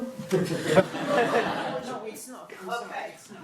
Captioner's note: audience laughing